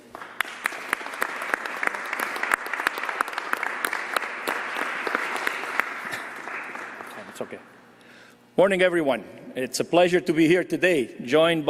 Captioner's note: applause